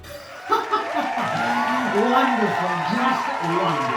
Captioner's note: clapping and laughing